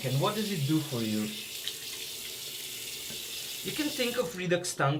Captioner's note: water running